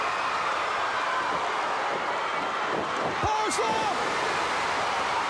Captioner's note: crowd cheering